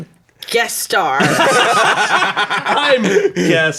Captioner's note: everyone laughs